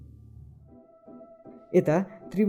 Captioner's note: silence